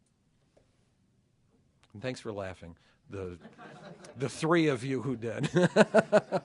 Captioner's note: laughter